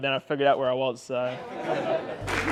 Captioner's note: laughing; clapping